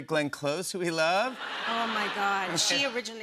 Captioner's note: laughter